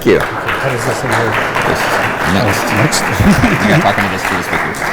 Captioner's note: audience applauding